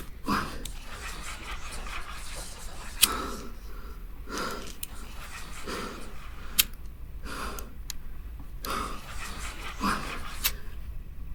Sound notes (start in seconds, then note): 0.2 Pete panting; 2.5 voices whispering; 4.1 lighter flicks; 6.2 voices whispering; 7.8 lighter flicks; 10.3 voices whispering